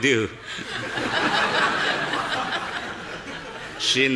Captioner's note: audience laughing